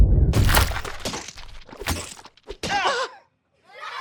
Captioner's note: splattering; laughing